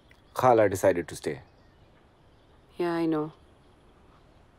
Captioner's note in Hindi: none